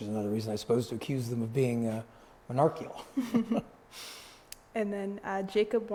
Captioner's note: laughs